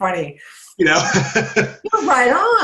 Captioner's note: laughs